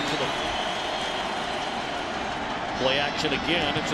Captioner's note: crowd cheering